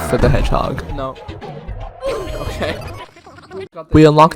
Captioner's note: laughing